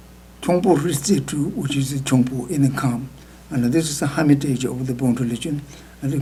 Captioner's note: speaking tibetan